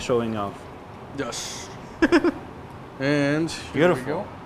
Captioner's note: laughs